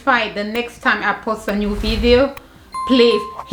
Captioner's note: air whooshing; bell ringing